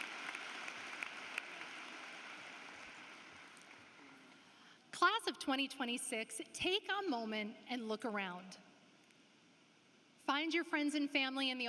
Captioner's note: applause